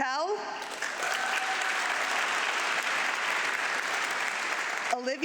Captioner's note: audience clapping